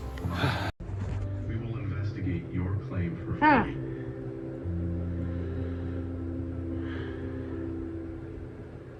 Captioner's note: TV plays in background